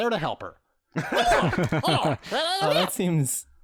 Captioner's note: Imp noises